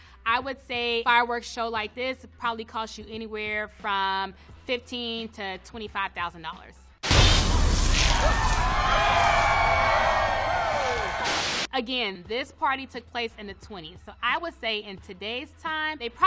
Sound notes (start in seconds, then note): 7.1 streamers explode; 7.3 crowd cheering